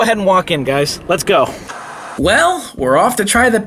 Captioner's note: TV Static